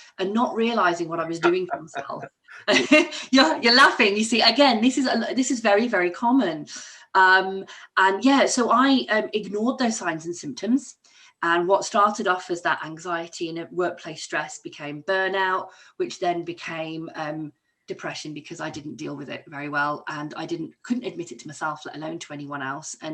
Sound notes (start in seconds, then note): 2.6 laughs